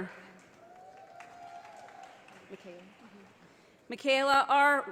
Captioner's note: audience applauding